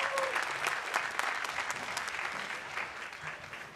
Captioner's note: applause